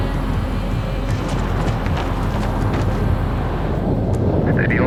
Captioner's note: gentle music; wind rustling